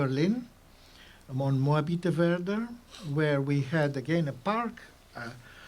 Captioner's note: german